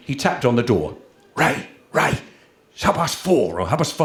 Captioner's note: loud Whisper